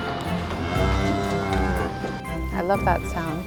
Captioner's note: cows mooing